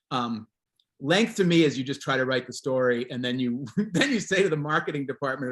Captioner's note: chuckles